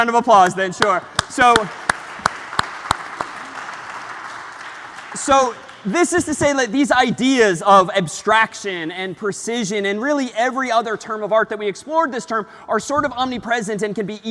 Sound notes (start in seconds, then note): 0.8 applause